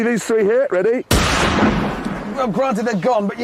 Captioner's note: bang